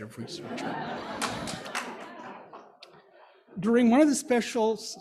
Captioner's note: audience laughing